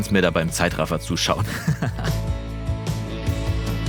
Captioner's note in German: Er lacht